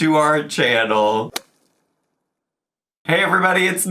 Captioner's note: golf club striking